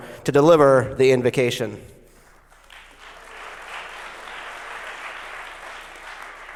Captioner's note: applause